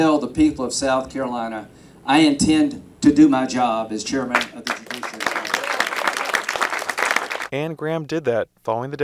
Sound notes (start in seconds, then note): 4.3 applause